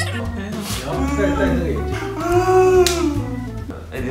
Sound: fake cry

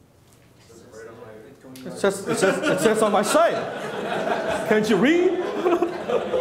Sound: audience laughs

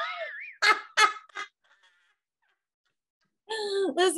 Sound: laughs

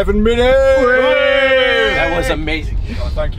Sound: everyone cheering

